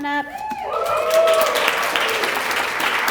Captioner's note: applause